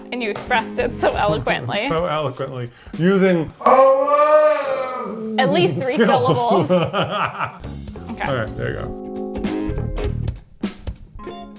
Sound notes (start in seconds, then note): 5.0 laughs